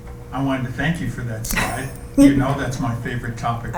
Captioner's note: laughs